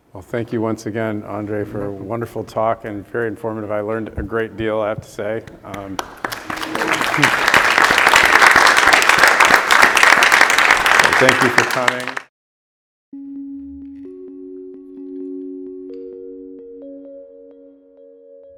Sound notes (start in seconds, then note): 5.6 all applauding; 13.2 gentle music